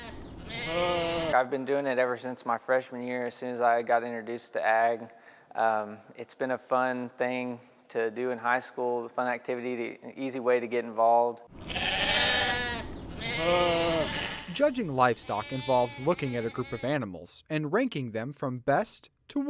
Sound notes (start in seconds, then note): 11.5 sheep bleating